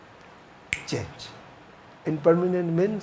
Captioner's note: snaps finger